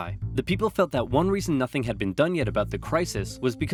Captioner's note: none